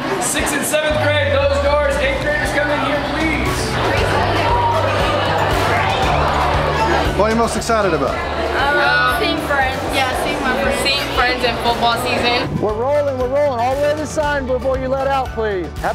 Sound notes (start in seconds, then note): 4.1 students chatting